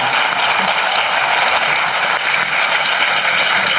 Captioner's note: applause